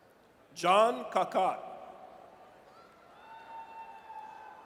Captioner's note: audience cheers